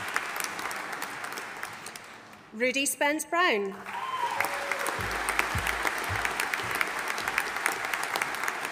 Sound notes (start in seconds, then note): 3.8 audience applauding